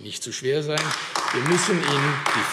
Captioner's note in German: Beifall AfD